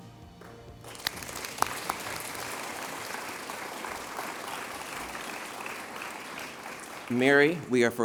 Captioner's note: applause